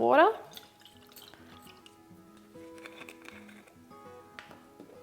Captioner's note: rose water sloshes